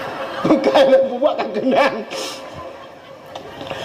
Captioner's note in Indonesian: tertawa